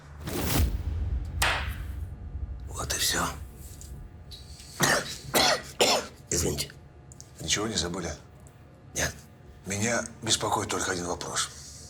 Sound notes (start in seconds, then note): 4.7 coughs